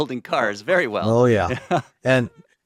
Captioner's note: chuckles